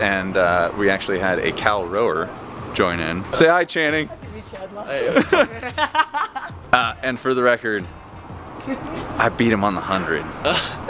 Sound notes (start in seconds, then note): 5.0 chuckling